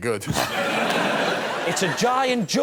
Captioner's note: laughter